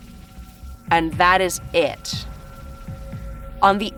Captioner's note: none